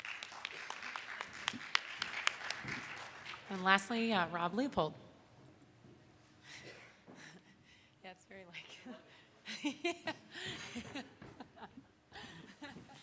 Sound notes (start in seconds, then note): 0.0 audience claps; 7.5 laughs; 11.7 laughs